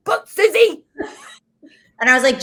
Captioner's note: both laughs